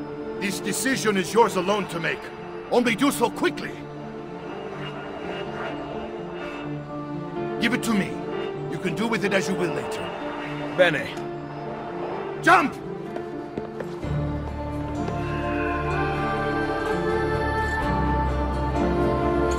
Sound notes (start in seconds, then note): 15.0 eagle screech